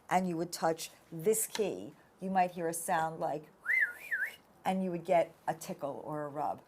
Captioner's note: whistles